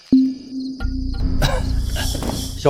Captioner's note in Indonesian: Uhuk